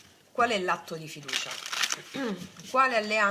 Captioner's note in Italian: schiarire la voce